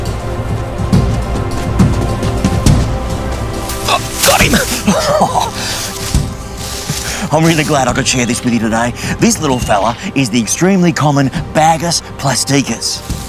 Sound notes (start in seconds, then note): 4.3 laughs